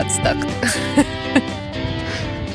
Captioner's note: laughing